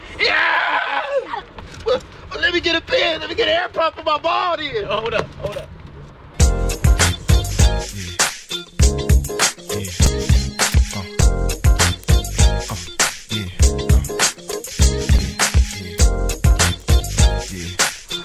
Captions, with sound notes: (screams) - Well let me get a pin, let me get an air pump for my ball then. - Hold up, hold up. (hip hop music)